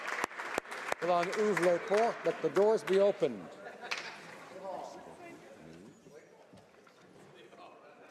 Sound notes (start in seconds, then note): 2.4 applause